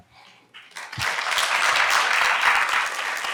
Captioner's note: applause